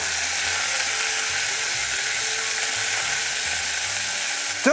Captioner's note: sizzling sound